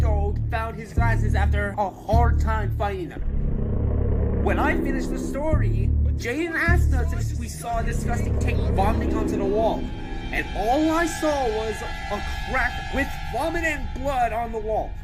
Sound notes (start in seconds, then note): none